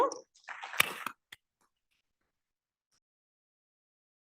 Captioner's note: audience clapping